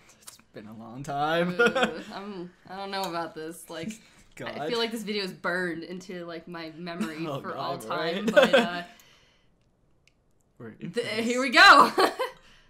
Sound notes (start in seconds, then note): 1.5 laughs; 8.2 laughs; 8.6 chuckles